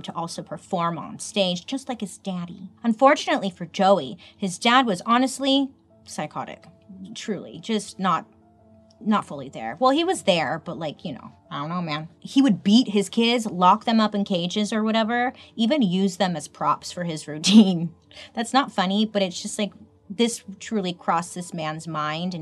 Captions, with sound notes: to also perform on stage, just like his daddy. Unfortunately for Joey, his dad was honestly psychotic, truly, just not fully there. Well he was there, but like, you know, I don't know man. He would beat his kids, lock them up in cages or whatever, even use them as props for his routine. (chuckles) That's not funny, but it's just like this truly crossed this man's mind